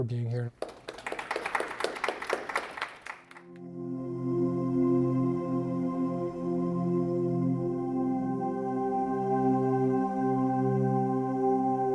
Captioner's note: applause